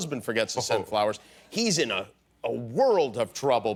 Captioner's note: none